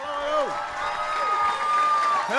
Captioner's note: applause